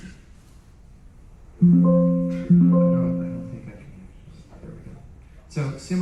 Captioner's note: game sound effects